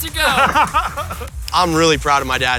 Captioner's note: laughing